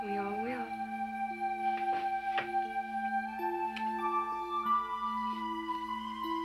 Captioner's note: lips smack; sullen music